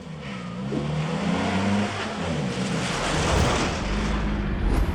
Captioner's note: SUV engine roaring